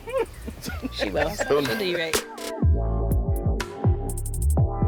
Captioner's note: group laughs; light music